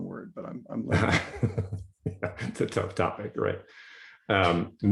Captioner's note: laughs